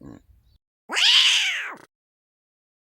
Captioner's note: cat hissing